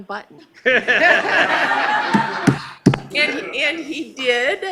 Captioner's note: laughing